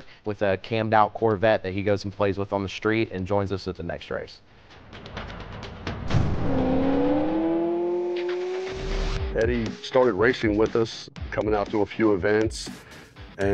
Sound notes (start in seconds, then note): 5.9 car engine roaring